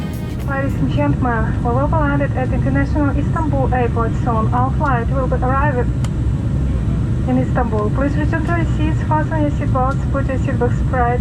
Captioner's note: landing Announcement